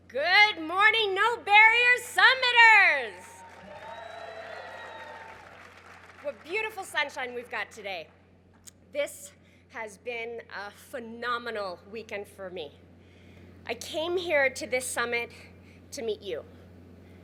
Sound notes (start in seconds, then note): 2.6 crowd cheers